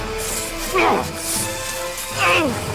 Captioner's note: angry Grunt